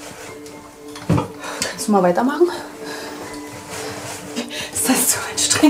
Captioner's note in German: atmet schwer